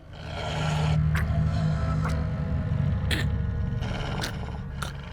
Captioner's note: blood gurgling; wolf growling; Nicki gasping